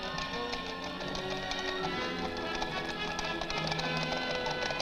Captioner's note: hooves galloping